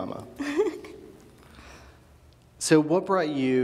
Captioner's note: laughs